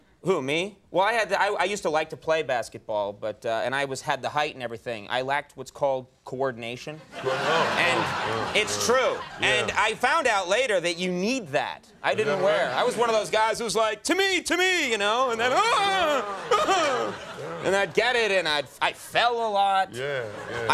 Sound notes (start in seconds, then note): 7.0 laughter